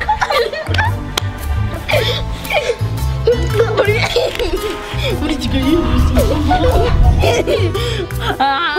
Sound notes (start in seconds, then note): 4.6 boys laughing